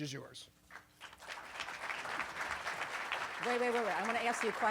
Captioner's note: applause